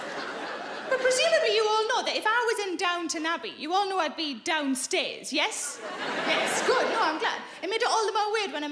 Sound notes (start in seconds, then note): 5.7 audience laughing